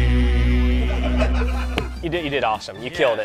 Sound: laughing

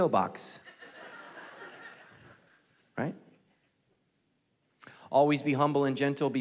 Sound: congregation laughing

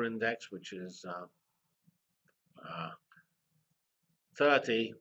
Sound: pause

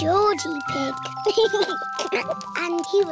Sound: giggles

